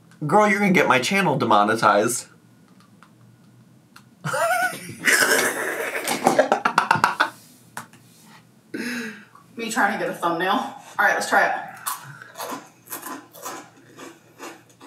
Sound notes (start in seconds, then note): 4.2 laughs; 11.8 fruit crunching